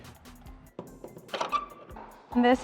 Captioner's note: door clicks, squeaks